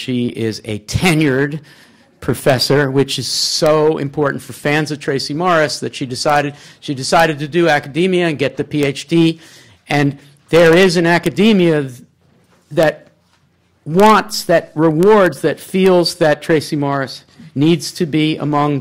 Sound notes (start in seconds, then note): none